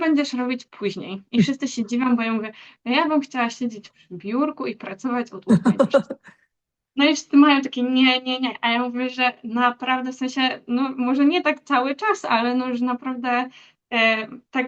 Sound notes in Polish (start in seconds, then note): 5.5 śmiech